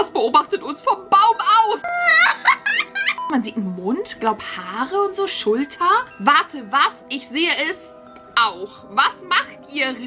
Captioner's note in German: gelächter